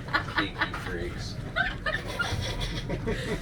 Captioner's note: laughing; laughing